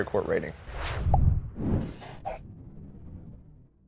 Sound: air whooshing

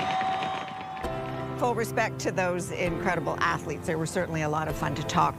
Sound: applause and cheers

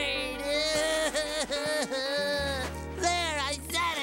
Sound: crying

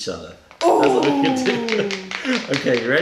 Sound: laughter

